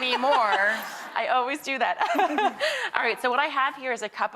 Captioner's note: laughs